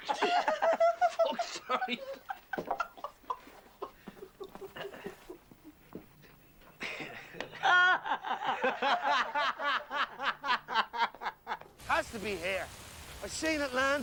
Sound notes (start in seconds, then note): 0.0 Reír; 6.8 Reír